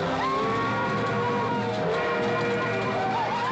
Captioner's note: train whistling; Comanches whooping and hollering